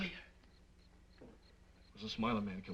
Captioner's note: insects chirping